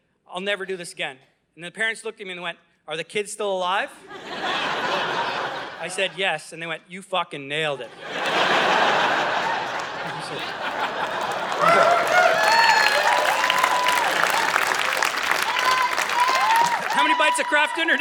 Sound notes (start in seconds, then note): 4.0 audience laughing; 7.8 audience laughing and cheering